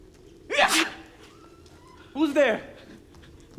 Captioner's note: man sneezes